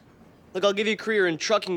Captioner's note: none